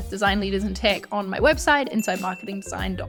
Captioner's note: bell dinging